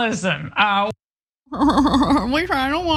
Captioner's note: laugh